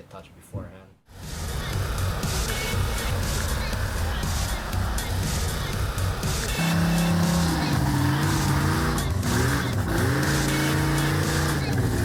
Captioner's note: car revving